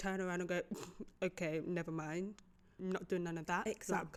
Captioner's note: scoffs